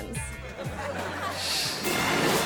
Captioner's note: audience laughing; graphics whooshing